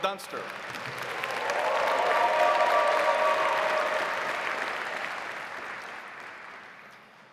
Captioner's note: audience applauding; audience cheering